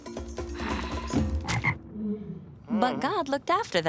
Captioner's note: sigh; ribbit